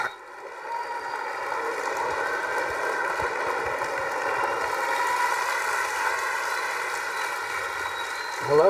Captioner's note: students clapping